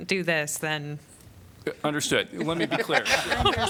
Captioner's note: laughter